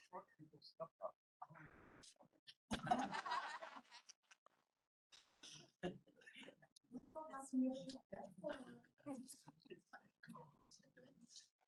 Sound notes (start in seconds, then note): 3.4 chatter